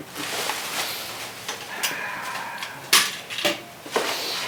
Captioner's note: chuckles; paper crackling